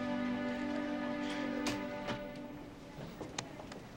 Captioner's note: door creaks; people chattering in distance